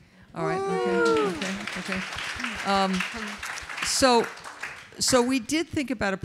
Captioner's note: audience applauds